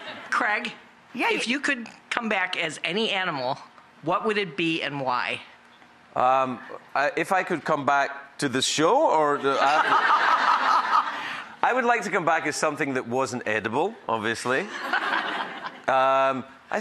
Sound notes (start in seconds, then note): 9.4 audience laughing; 14.6 laughter